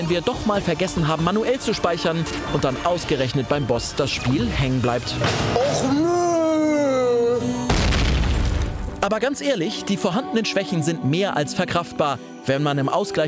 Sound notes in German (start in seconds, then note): 7.6 Explosion